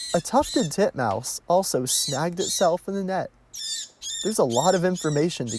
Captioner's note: bird chirps